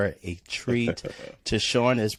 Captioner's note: laughs